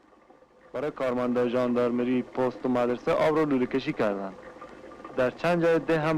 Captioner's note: man speaking foreign language